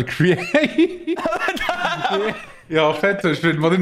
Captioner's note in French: rires